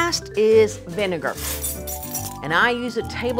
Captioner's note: measuring spoons clinking